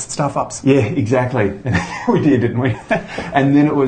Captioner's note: laughs